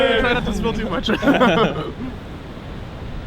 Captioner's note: all laugh